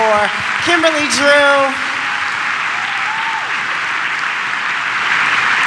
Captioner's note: audience applause